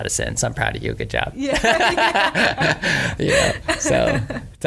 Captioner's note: laughter